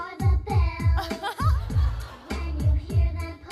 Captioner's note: laughs